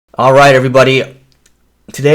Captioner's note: voiceover